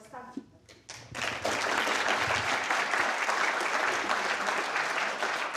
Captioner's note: applause